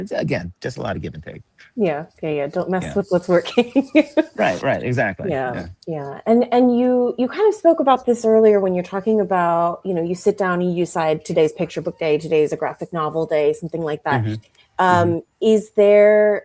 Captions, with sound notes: It's, again, just a lot of give and take. Yes, don't mess with what's working. [laughs] Right. Exactly. You spoke about this earlier when you're talking about you sit down, and you decide today is picture book day, today is a graphic novel day, something like that.